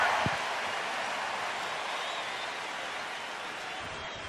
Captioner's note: cheering